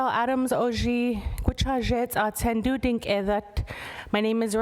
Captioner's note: speaking indigenous language